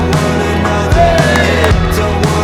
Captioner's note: cheering